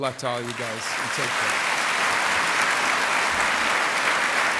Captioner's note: applause